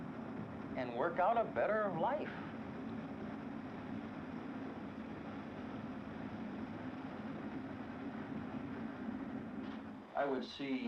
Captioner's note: car motor rumbling